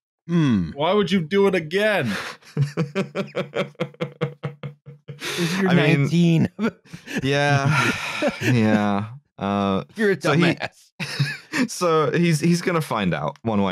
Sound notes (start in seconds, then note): 1.8 chuckles; 6.8 sighs; 6.9 laughter; 9.4 laughing